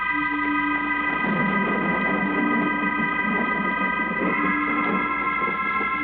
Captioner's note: thunder